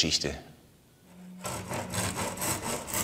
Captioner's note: sounds of sawing